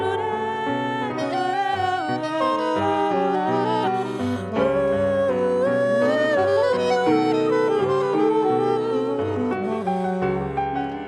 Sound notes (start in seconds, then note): none